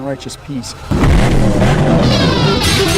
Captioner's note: car engine revving; exciting rock music